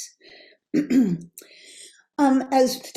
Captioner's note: clears throat